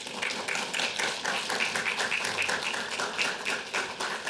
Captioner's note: audience applauding